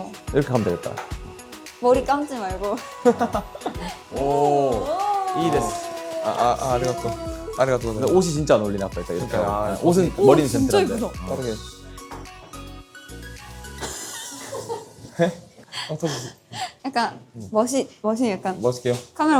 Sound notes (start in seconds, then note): 13.8 photographer bursting into laughter